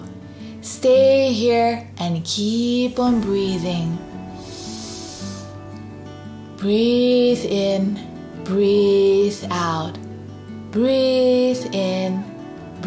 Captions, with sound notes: Stay here and keep on breathing. (breathes in deeply) Breathe in, breathe out, breathe in, breathe out.